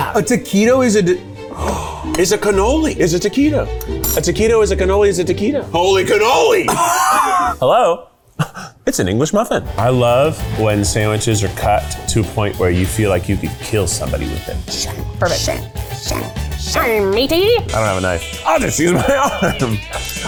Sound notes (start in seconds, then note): 1.4 gasps; 14.7 making fake sword-fighting sounds